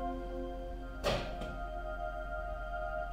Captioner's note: wall hit